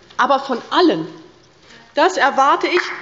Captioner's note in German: Beifall bei der LINKEN sowie bei Abgeordneten der SPD